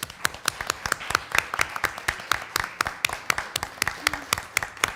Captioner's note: applause